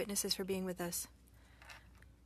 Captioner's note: speaking French